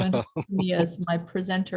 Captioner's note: laughing